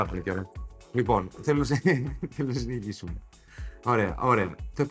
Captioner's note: laughs